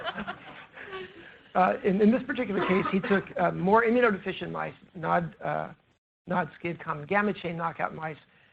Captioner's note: laughter